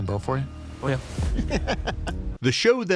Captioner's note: laughs